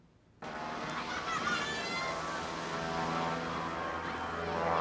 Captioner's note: mesin pesawat mendengung